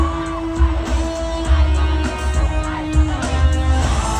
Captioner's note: crowd chanting